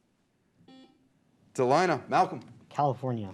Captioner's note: beep